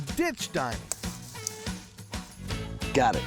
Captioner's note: snapping, cutting sound